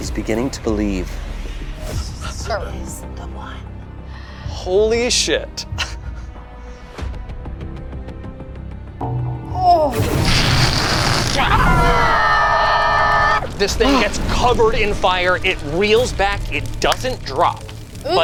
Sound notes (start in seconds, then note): 10.4 imitates flames roaring; 11.9 screeches